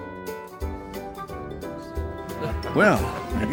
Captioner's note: laughter